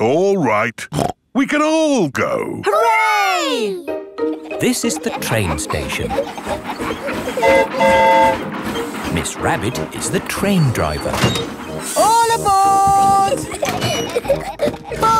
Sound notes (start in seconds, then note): 7.4 train whistle toots; 13.0 giggling